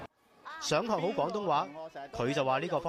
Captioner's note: Cantonese